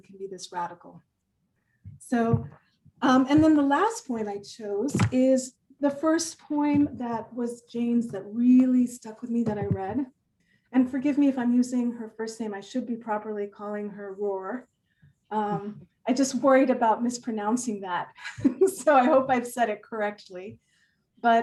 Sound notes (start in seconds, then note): 18.1 laughs